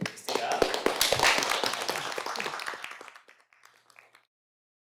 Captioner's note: applause